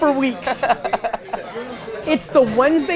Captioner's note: laughs